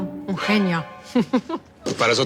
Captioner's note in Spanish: Risas